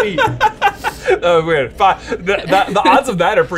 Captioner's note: laughs